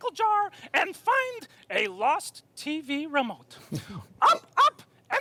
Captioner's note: Dr. Sanjay chuckling